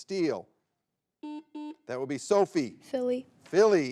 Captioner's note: button blips